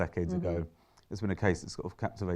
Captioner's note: murmurs in agreement